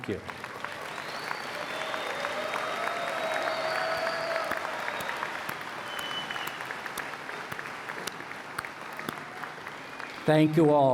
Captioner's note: cheers and Applause